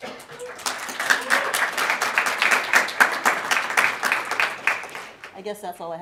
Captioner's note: applause